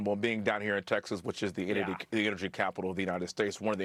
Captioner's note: laughter